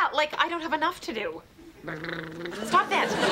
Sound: <i>blubbering

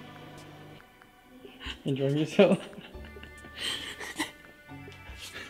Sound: giggling like a schoolgirl

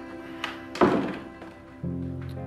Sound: doors closing

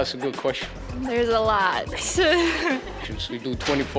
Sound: laughing

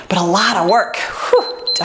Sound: timer beeps

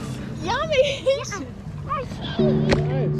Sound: giggles

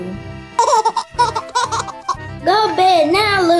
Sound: laughter

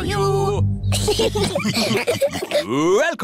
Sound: laughter

